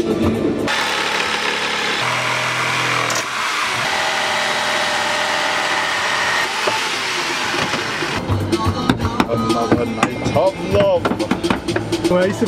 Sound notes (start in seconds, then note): 0.6 saw whirring